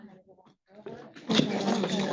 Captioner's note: attendees chattering